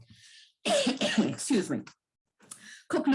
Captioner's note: coughs